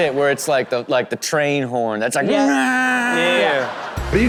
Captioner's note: imitates horn blaring